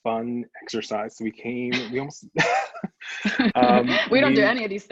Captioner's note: both laugh